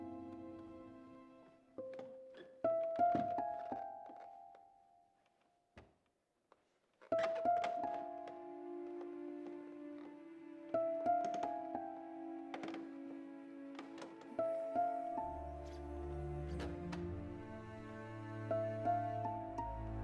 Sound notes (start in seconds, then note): 1.7 footsteps tapping; 6.8 stair creaking; 16.4 soft suspenseful music